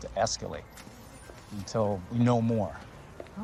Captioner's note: engine starting